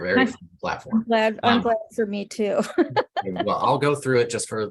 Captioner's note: laughs